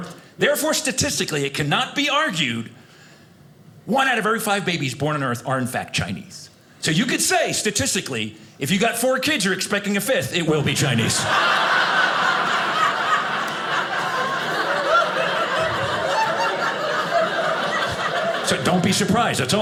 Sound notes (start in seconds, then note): 10.9 audience laughing